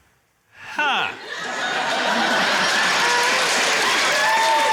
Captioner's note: cheering, applause, laughter